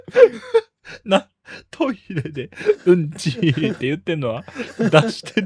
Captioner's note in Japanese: 笑い